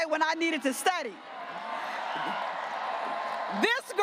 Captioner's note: graduates cheering